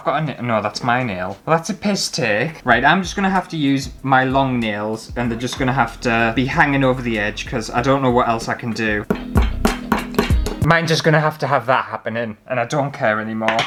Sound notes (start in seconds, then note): 8.8 hammering